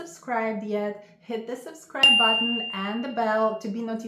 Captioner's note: bell chiming